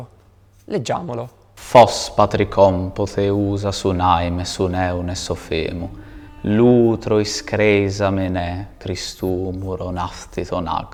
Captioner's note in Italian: voce legge in Greco